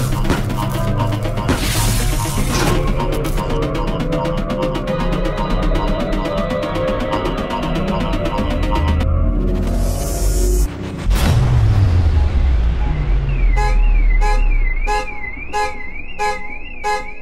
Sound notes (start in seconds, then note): 12.1 car alarm blaring